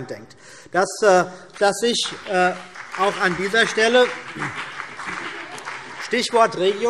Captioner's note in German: Beifall BÜNDNIS 90/DIE GRÜNEN